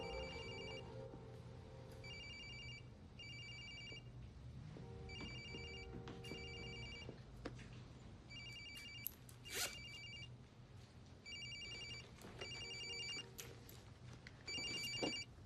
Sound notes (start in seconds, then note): 0.0 cell phone ringing